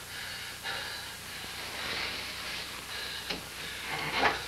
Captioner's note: john breathes heavily